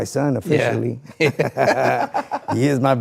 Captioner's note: both laughing